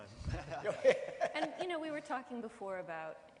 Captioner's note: laughing